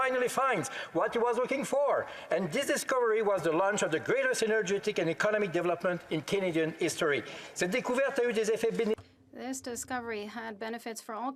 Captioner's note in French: voix de l'interprète